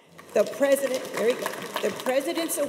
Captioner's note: audience applauds